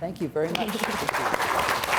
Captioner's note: audience claps